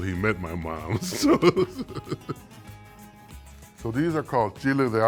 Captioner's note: laughs